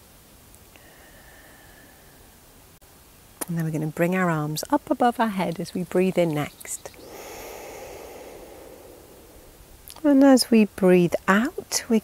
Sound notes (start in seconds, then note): 0.8 exhaling; 6.9 inhaling